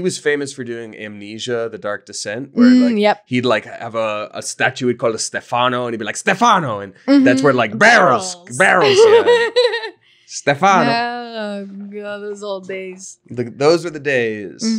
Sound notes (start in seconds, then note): 8.9 laughing